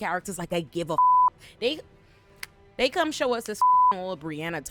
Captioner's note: beep